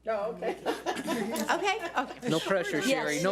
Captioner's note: laughing